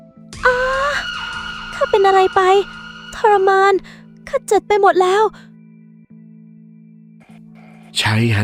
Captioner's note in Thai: เสียงกรีดร้อง